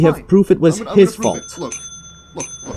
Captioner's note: rampant Ringing and Dinging